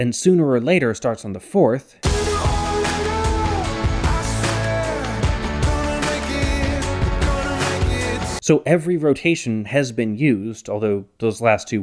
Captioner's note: bang